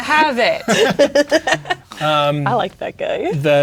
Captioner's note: players laughing